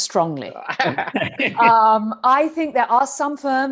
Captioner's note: chuckles